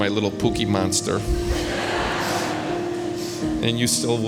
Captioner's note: spectators laughing